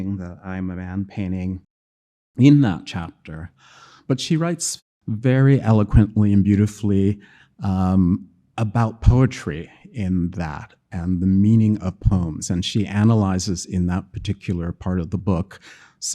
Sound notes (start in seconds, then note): none